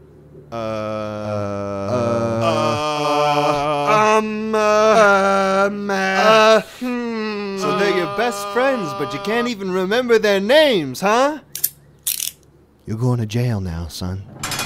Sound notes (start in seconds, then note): 12.0 handcuffs sound effect; 14.3 prison Cell Door sound effect